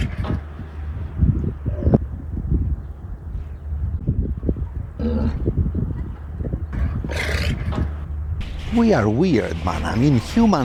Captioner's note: Wind